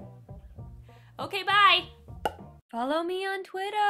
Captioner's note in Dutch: pop geluid